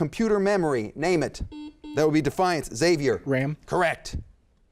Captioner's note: beep